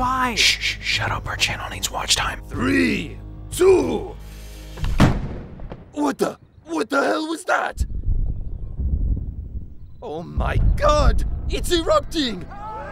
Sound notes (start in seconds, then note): 5.0 cannon firing